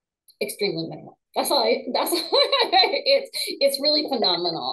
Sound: laughing

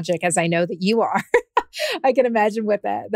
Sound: laughs

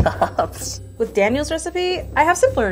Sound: laughing

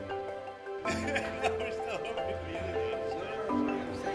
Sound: chuckling

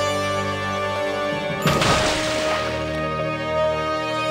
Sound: splash

